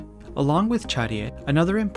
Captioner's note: speaking in Korean language